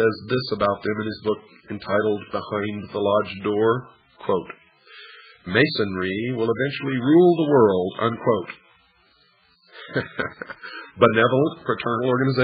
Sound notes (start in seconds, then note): 6.2 laughs